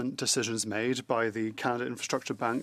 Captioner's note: speaking French